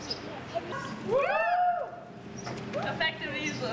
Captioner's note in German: jubeln